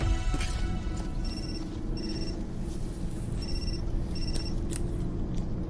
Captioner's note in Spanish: Suena el celular